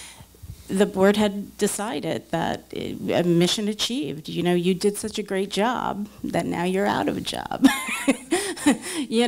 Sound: laughs

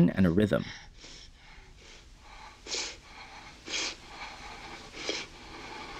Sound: woman sniffing and breathing heavy

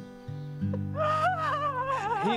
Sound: crying

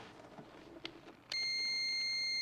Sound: beeping

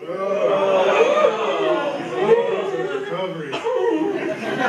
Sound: moaning

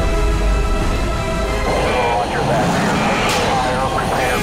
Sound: man On Radio

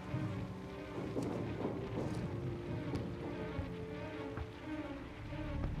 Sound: explosions in distance

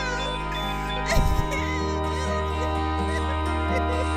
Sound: Erika crying

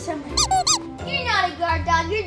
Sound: dog squeaking

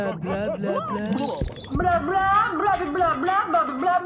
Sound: speaking Blobian

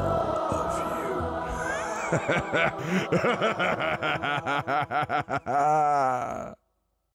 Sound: laughs

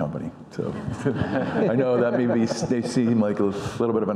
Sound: audience laughing

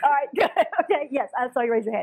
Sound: laugh

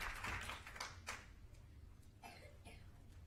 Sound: applause

